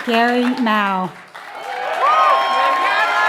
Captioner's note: applause